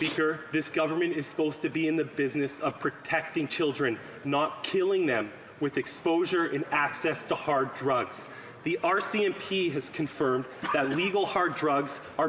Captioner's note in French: voix de l'interprète